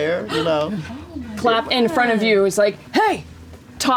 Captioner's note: gasps